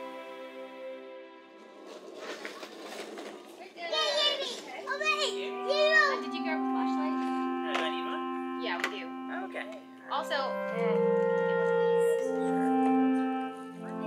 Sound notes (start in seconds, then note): 3.9 child babbling; 11.2 gentle music